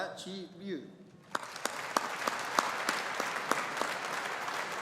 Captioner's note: audience applauding